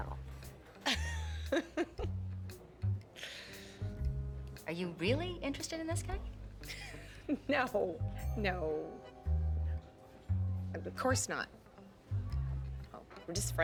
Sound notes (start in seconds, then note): 0.8 laughing; 6.7 shane laughs